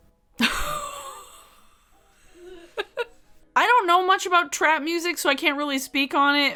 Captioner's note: laughs